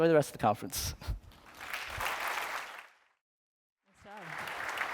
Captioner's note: applause